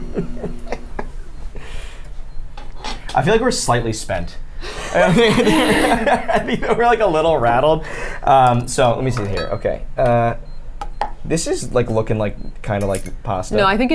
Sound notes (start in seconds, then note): 0.0 laughs; 4.7 the group laughs